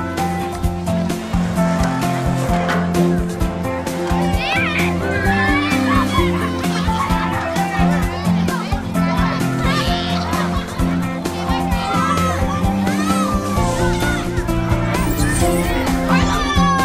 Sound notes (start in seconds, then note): 0.1 uplifiting music; 5.9 kids cheering and screaming